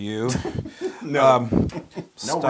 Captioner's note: laugh